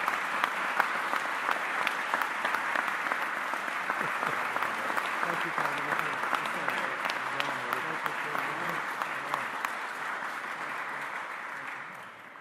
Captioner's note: applause